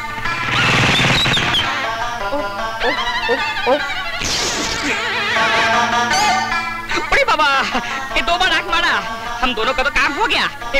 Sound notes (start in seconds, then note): 1.0 brakes squeal